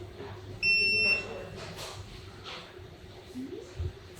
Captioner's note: error beep